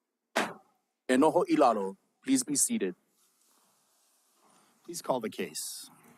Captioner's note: gavel bangs once